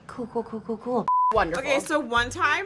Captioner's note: beep